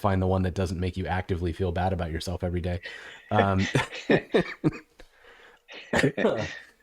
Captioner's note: laughter